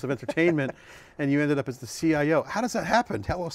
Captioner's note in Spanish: risas